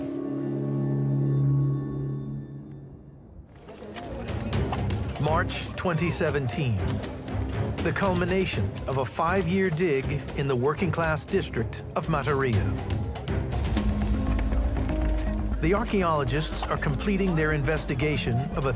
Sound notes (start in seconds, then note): 0.1 gentle suspenseful music; 3.6 indistinct chatters; 3.7 lively upbeat music; 12.9 lively suspenseful music